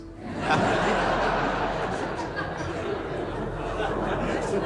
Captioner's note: audience laughs